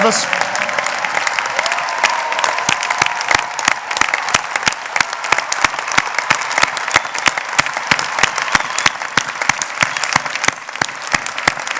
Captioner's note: applause